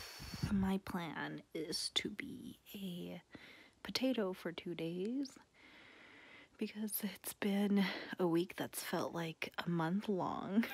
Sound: exhale

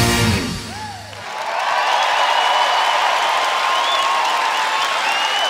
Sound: cheers and applause

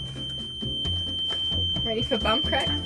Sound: beeping

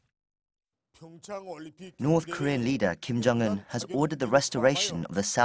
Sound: Korean

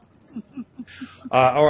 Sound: laughing

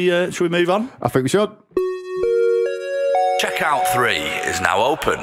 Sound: chime

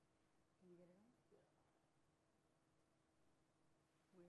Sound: voiceover

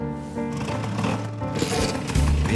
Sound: engine starts

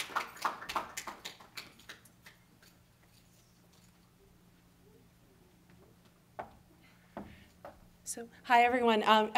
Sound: clapping

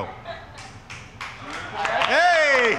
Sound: audience applauding

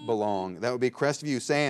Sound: bell rings

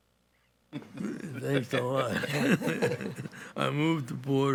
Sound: laughs

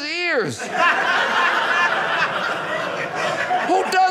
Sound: audience laughing

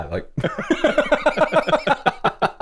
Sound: laughter

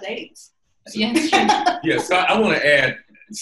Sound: laughing

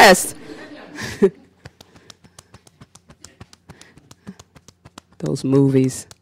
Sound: beating Chest

